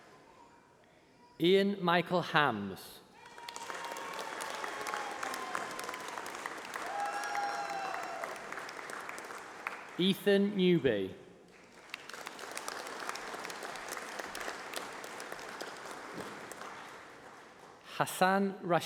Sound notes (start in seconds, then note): 1.3 applause